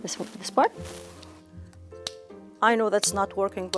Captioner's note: part clicking